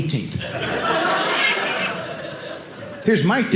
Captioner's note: audience laughing